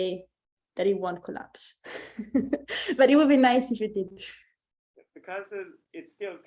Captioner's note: chuckles